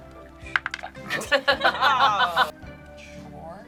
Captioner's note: group laughs